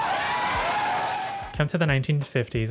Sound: crowd cheering

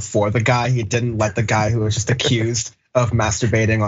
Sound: laugh

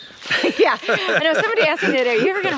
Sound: laughing amusingly

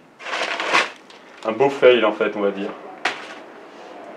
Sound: crash

